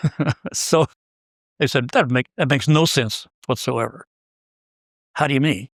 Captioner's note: laugh